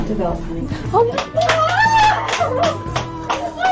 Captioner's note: outburst of shock, relief and other more complex emotions